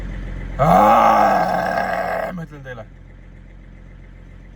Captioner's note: done with life grunts